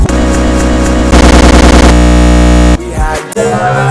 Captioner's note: stutter loop